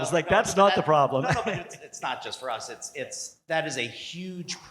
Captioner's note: laugh